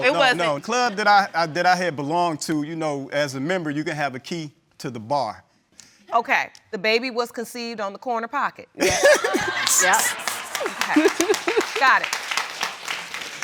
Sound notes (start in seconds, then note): 8.8 all laughing